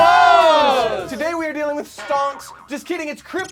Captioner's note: loud boing